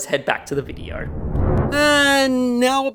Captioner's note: air whooshing